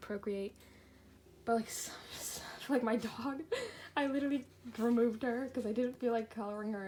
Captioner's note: laughs